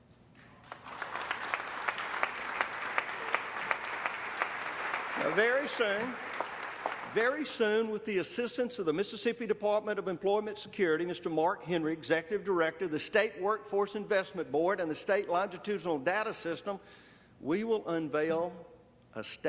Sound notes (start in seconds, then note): 6.5 applause